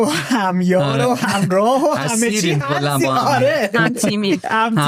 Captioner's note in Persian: خنده